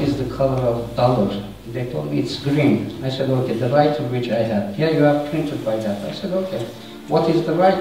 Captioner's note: printer